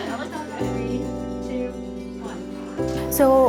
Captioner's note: laughs